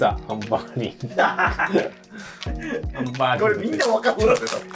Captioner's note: laughing